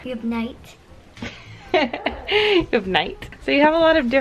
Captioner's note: laughs